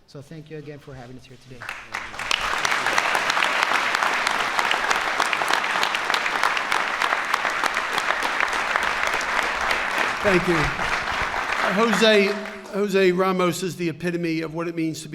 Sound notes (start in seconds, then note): 3.1 applause